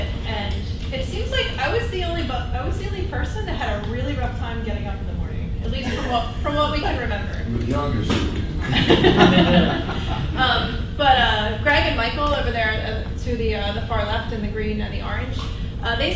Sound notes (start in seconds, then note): 7.7 voiceover; 8.5 laughing